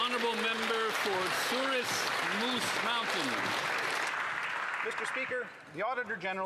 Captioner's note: some Applause